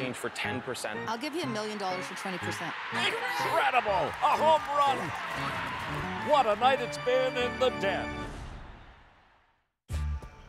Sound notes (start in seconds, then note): 5.6 cheering